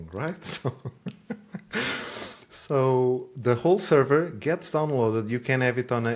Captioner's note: laughs